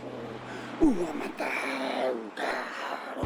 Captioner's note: chanting